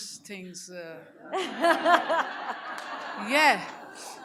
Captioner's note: audience laughs